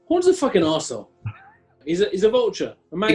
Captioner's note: chuckling